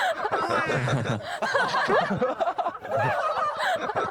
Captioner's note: giggling